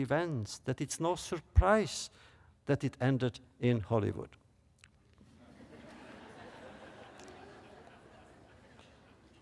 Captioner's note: laughter